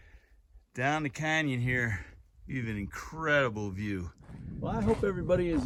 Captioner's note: gravel crunching underfoot